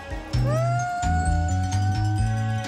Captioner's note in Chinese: 欢呼中